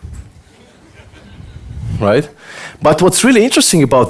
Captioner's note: audience laughter